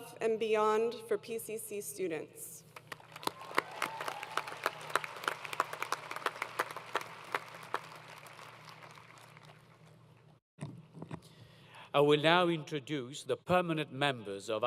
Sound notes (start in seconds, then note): 2.7 applause